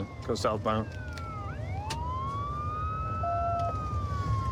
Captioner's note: sirens wailing